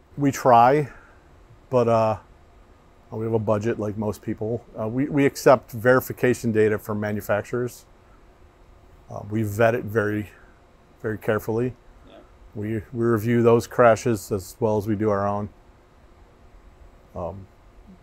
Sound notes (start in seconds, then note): none